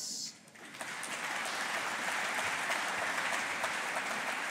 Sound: audience applauding

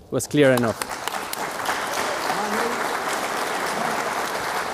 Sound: applause

